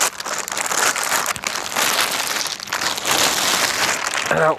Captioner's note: plastic rustling